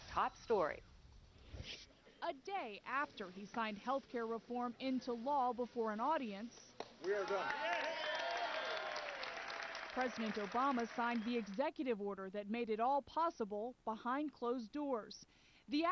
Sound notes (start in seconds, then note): 6.8 applause